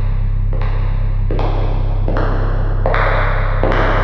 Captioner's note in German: Immer lauter werdende Schritte